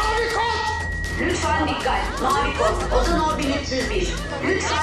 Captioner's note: nurse announcement voice